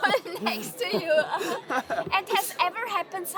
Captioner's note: laughing